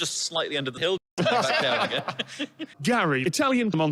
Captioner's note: everyone laughs